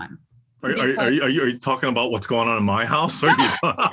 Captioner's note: laugh